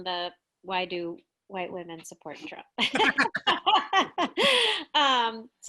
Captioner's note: laughs